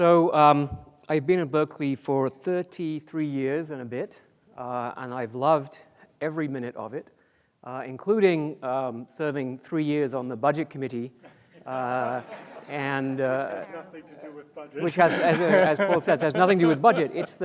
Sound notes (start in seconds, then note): 11.6 audience laughs; 13.4 laughs